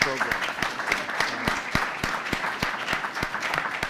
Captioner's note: applause